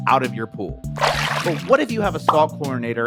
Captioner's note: water splashes